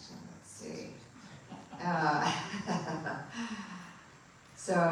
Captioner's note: laughter